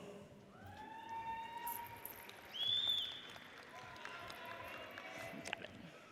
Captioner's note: audience cheers and applauds